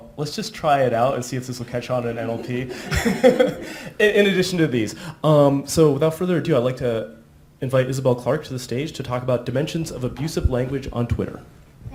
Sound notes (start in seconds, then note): 2.3 laughter